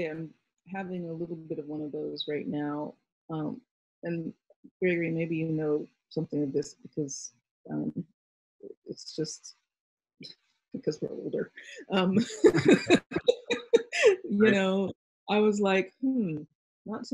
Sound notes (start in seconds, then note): 12.2 both laughing